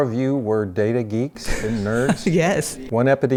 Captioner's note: chuckles